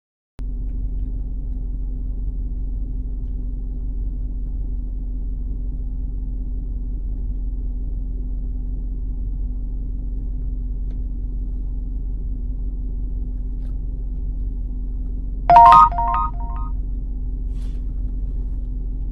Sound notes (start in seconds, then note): 15.5 text sound; 17.5 dark music